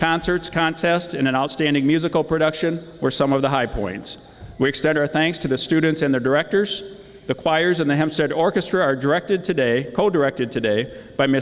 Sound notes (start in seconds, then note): none